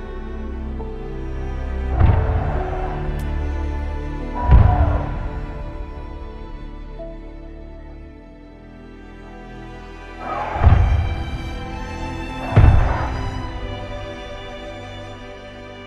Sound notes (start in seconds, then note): 1.7 grunting; 10.3 thuds